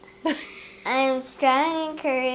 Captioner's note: laughing